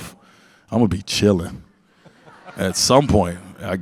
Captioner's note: audience laugh